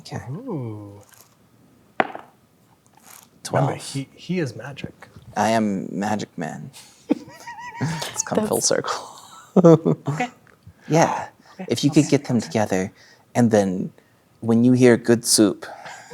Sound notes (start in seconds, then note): 2.0 dice rolling; 7.1 laughing; 9.6 laughs